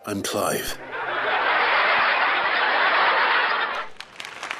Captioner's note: laugh Track Plays; applause